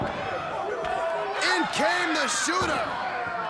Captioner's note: crowd chatter